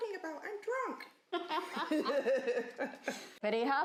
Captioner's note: moms laugh